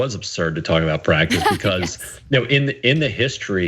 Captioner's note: laugh